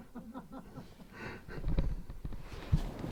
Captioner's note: Bruno Laughter